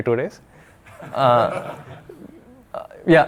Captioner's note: audience laughing